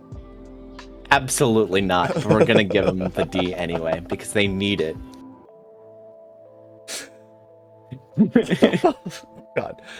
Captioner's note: laughter